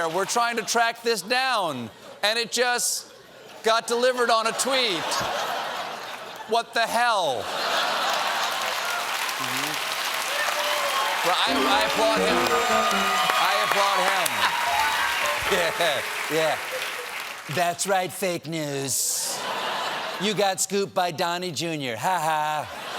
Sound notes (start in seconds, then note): 7.2 laughter; 7.8 applause